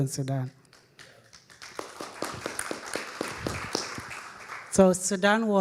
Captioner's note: audience applauding